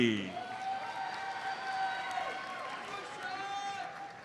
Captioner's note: audience cheers and applauds